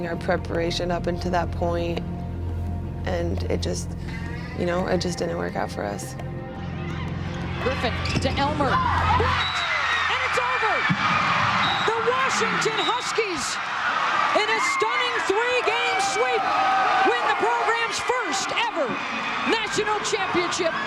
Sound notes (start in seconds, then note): 8.0 cheering